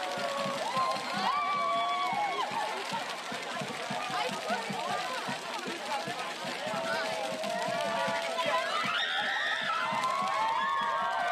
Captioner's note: cheers and applause